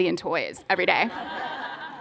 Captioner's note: laughter